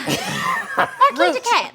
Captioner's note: laughing